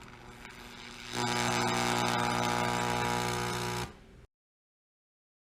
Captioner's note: electrical buzzing